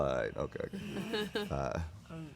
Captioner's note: giggles